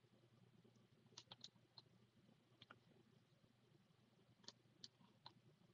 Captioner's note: keyboard clacking